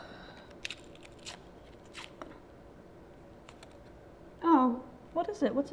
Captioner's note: friend sighing; paper rustling